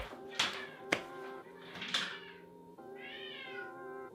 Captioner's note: cat meowing